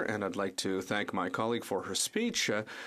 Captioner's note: speaking French